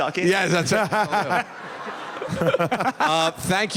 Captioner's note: laughter